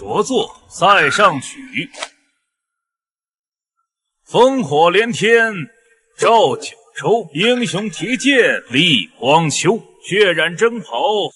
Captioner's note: reciting a poem